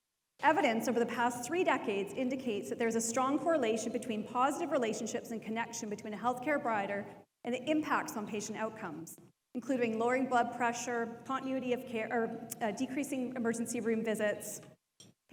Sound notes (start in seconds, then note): none